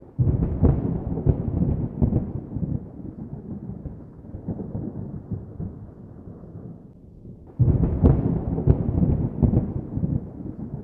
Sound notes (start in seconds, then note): 3.6 thunder